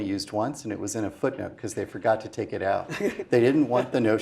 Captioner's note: laugh